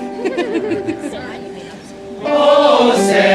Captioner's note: laughs